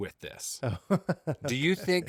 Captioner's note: laughing